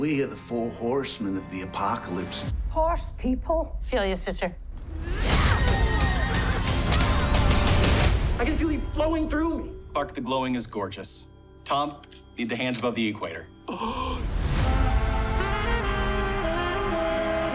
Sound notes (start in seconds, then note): 5.0 horses neigh; 6.5 dramatic music playing; 13.7 Tom gasps